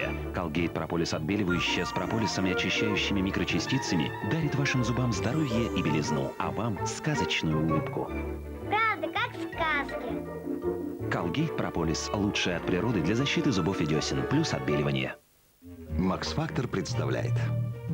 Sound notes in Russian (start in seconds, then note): none